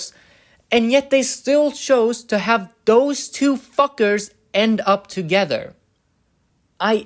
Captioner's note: none